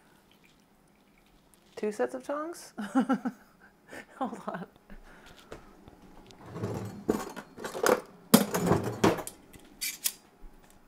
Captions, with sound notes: Two sets of tons? (laughs) Hold on.